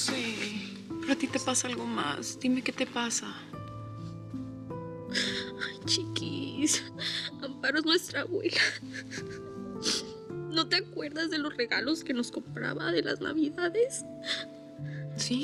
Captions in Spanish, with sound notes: - YO SE... PERO A TI TE PASA ALGO MAS. DIME QUE TE PASA. - !AY, CHIQUIS! [Sollozando] AMPARO ES NUESTRA ABUELA. ¿NO TE ACUERDAS DE LOS REGALOS QUE NOS COMPRABA, DE LAS NAVIDADES?